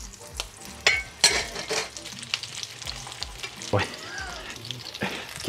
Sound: utensil clattering

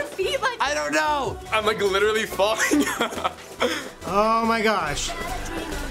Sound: laughs

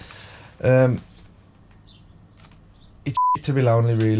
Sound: silence

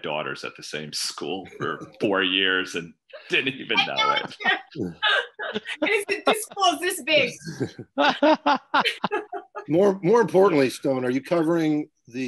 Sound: laughing

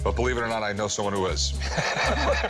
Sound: laughs

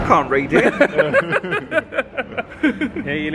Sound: laughing

